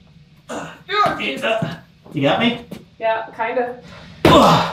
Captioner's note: grunting